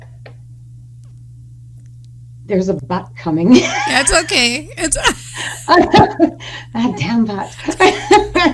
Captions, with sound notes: There's a but coming. - That's okay. (laughing) - That damn but.